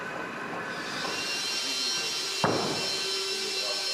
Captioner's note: saw screech, snatches of conversation